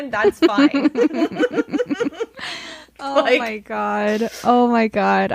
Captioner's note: laughing